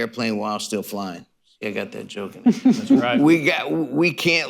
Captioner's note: laughter